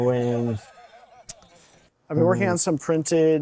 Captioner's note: audio continues playing from phone